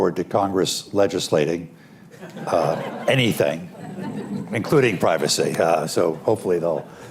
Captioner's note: laughter